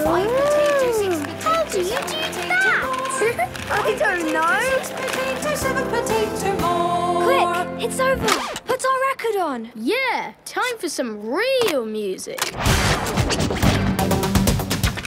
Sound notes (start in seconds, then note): 3.2 laughing; 13.1 heavy dance music